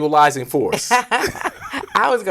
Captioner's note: both laugh